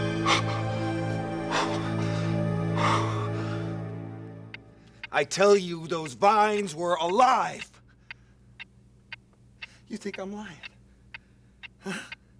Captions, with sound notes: - I tell you, those vines were alive. (clock ticking) You think I'm lying, huh?